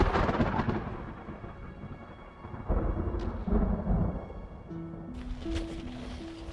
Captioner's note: thunder